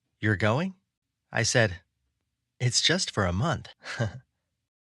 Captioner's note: chuckle